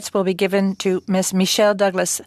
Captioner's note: speaking French